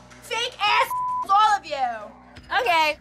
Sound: beep

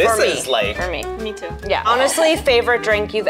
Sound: laughs

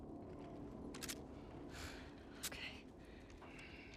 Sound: sigh

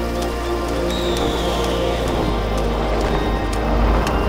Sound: birds calling

